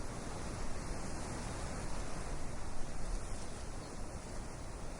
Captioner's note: wind in oak tree